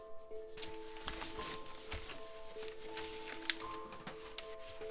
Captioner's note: cloth rubbing